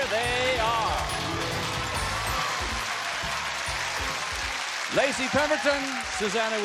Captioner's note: applause and cheers